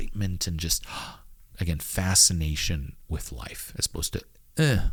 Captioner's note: gasps